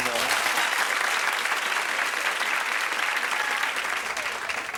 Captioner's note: audience applauds